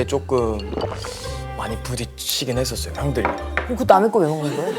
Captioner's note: slurp